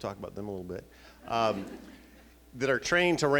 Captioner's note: laughing